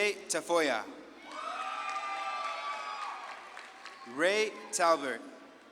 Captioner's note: audience claps and cheers